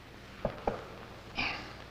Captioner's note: clank